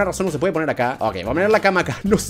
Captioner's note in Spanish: risa incomoda